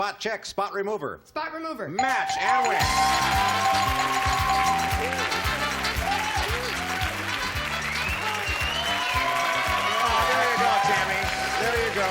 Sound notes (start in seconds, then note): 5.2 dinging; 6.6 cheers